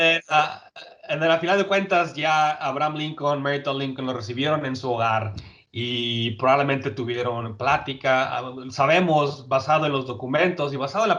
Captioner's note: speaking Spanish